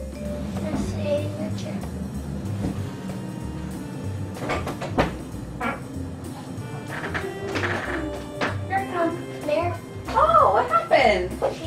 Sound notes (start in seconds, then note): 4.1 door opening